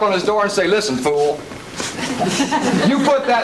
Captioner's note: laughter